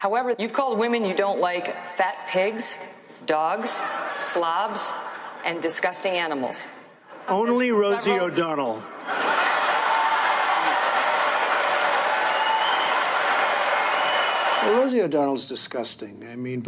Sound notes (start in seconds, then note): 8.8 crowd laughing; 9.0 crowd applauding